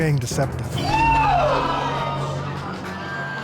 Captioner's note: audience gasps